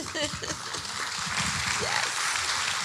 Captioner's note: audience applauding